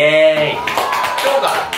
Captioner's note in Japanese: 拍手